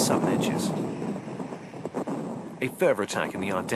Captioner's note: bombs exploding